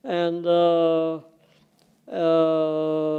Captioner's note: none